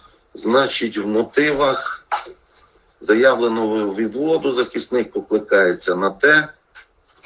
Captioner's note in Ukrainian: прочищення горла